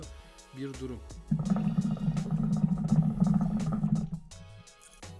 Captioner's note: hookah sound